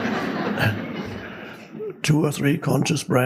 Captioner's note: audience laughing